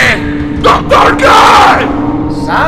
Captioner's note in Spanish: grita